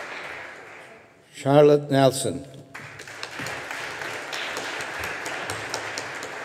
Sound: audience applauding

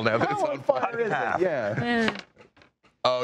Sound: laughing

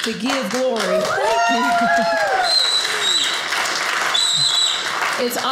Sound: audience cheers

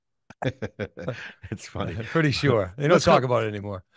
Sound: chuckles

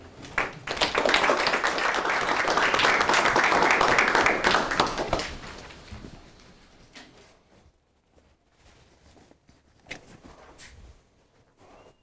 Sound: audience applauds

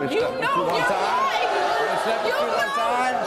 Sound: audience jeering

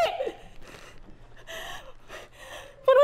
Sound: heavy breathing

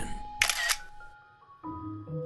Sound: camera Click

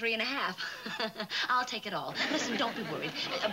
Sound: laughing nervously

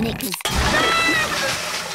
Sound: screaming

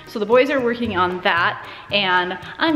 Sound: none

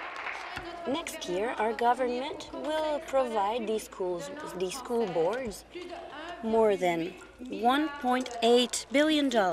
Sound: applause

